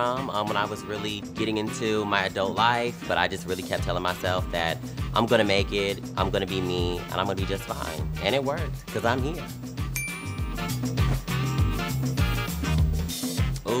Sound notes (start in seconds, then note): 9.9 jazzy music continues; 9.9 ding